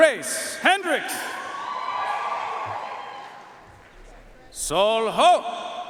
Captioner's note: audience cheering and applauding